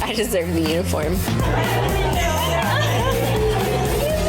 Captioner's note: women cheering